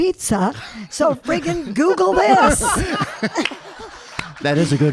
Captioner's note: audience laughing